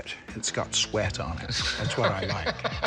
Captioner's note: laughs